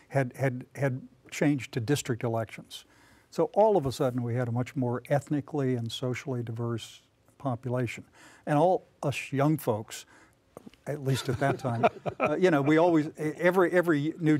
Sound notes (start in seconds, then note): 11.1 laughter